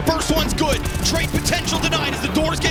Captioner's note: gun firing